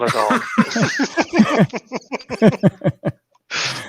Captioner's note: all laughing